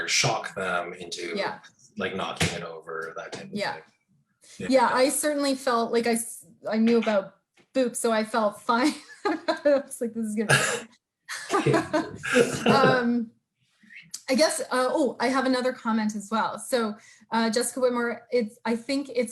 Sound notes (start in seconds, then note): 11.3 both laughing